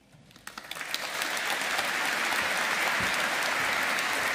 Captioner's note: audience applauding